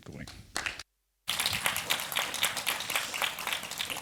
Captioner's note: applause